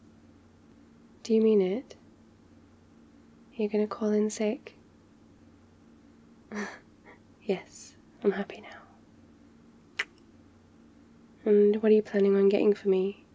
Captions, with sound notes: do you mean it? are you gonna call in sick? *laughs* yes, I'm happy now *kiss* and what are you planning on getting for me?